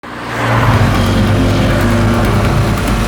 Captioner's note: traffic noise